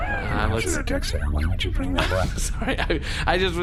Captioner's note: laughs